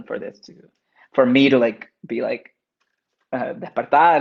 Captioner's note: speaks Spanish